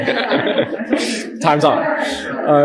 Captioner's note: laughter